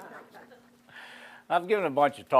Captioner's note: laughing